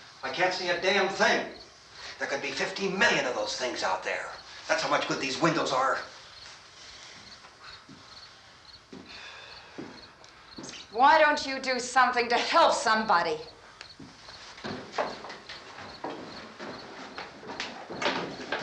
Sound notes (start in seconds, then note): none